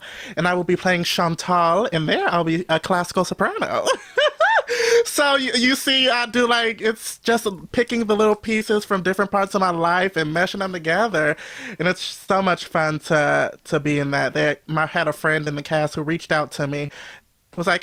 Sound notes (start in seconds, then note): 3.9 laughs